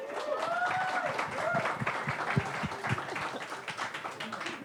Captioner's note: audience applauds